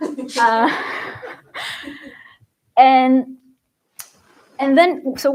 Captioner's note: laughter